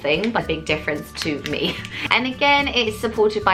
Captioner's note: laughs